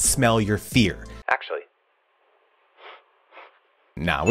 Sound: sniffs

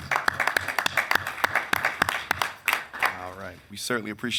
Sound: members clapping

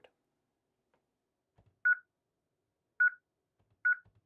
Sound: beeping

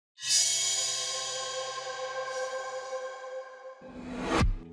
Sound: metallic whooshing

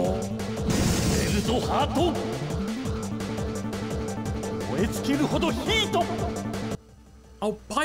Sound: speaks Japanese with great conviction

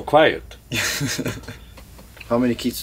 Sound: laughs

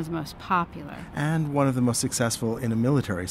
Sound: voiceover

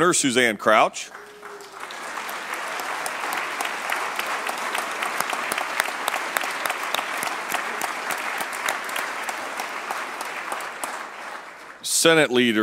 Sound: applause

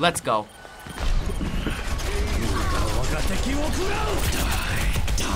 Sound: man speaks foreign language

